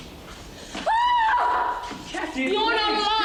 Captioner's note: Cathy screaming